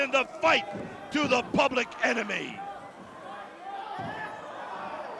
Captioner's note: crowd chatter